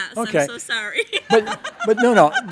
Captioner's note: laughing